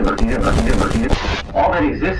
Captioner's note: schhhhhh